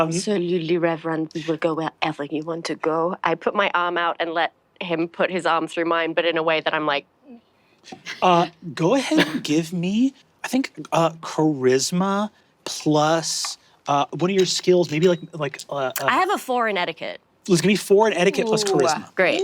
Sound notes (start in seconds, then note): 7.9 stifles vomit